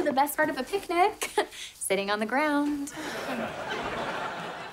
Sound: chuckles

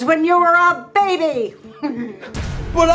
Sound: chuckle

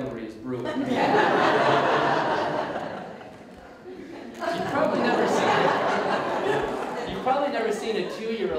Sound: audience Laughter

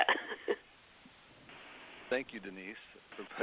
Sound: laughs

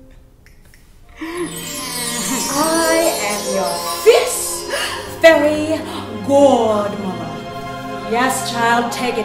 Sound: fairy sound effect

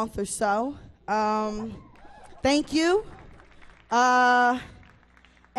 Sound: audience cheers

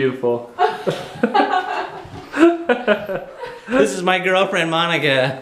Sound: laughing

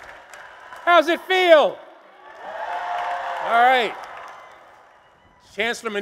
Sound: applause and cheers

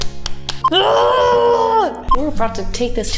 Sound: slaps face; Guttural Amazon warrior sounds

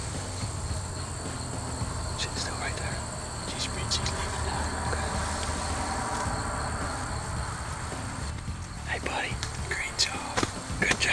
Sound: whispering

